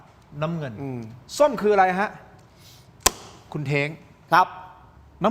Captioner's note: sound of inhaling